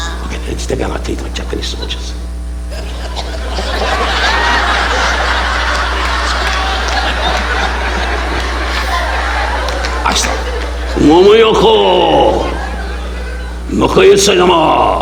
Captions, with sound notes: Stick our our teeth like Japanese soldiers. (audience laughing) I start, (imitating Japanese language)